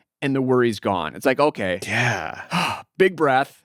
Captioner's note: sighs